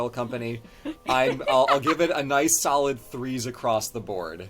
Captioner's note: laughs